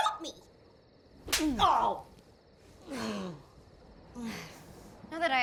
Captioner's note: hand slapping; bucky groans